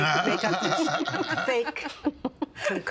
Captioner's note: all laughing